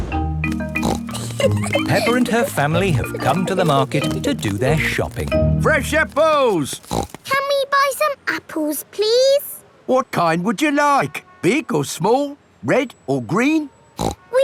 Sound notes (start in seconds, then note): 0.6 snorts and giggles; 6.6 snorts; 14.0 snorts